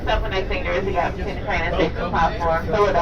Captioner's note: female announcement